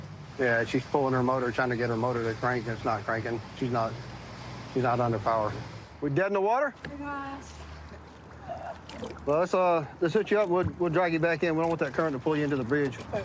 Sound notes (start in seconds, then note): none